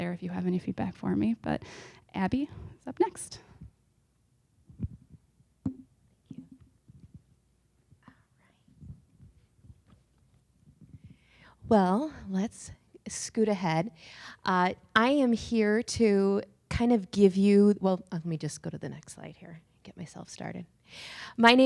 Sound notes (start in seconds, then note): 6.6 silence